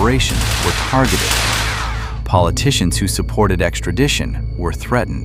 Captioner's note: static